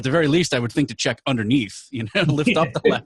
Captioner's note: laughing